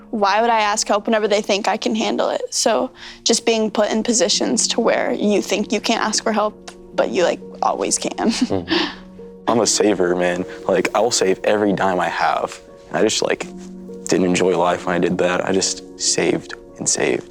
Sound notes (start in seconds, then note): 8.2 chuckles